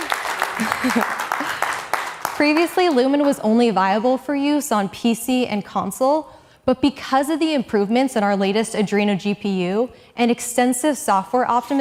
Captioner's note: cheering